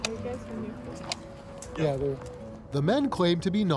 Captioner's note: muffled chatter